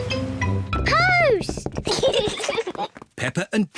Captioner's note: both giggle